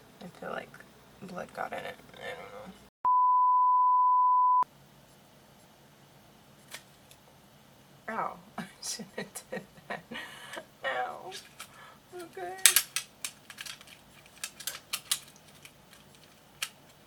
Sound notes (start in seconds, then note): 3.0 beep; 8.6 laughs; 10.8 cries; 12.6 plastic clicks